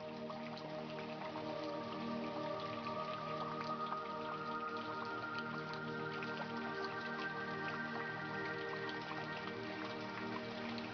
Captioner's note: calm Water Sounds